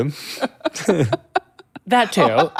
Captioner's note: laughing